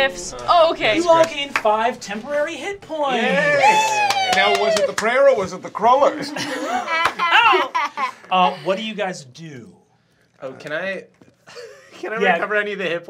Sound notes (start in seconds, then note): 3.7 clapping; 6.1 laughter